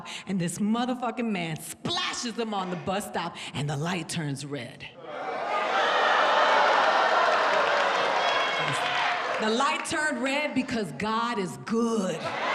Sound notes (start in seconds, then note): 5.0 audience laughs